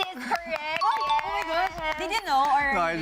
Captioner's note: rings